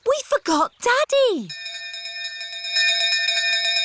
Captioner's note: bell continues dinging